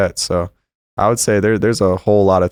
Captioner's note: none